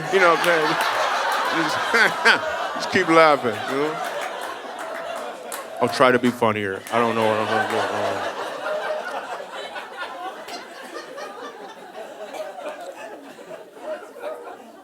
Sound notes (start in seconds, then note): 8.3 audience laughing